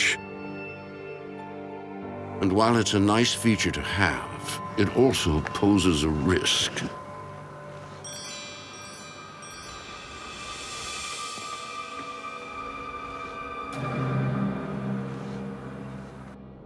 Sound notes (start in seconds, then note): 10.3 chimes ringing